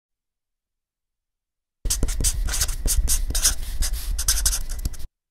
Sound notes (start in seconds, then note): 1.8 writing sound